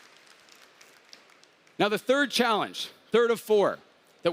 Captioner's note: applause